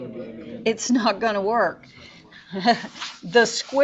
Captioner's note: teacher laughs